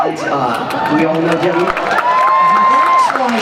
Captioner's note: cheers and applause